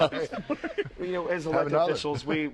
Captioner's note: laughter